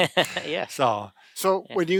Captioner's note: laughing